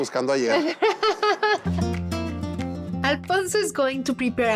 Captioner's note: laughs